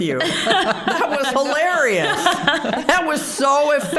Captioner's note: all laughing